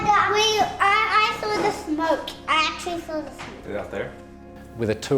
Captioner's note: child's voice